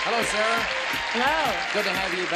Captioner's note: applause